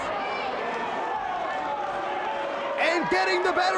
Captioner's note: audience cheers